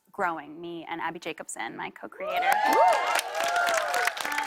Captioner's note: cheers and applause